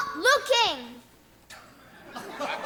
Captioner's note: laughter